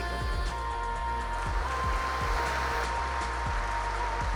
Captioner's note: applause